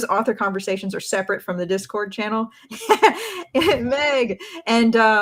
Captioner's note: laughs